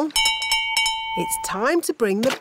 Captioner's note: bell rings